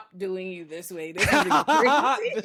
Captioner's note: laughing